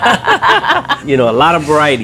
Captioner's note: both continue laughing